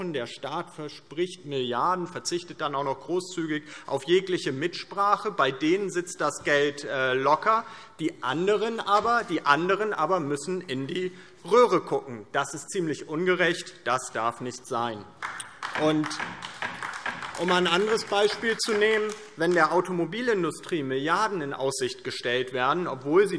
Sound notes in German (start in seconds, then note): 15.1 Beifall DIE LINKE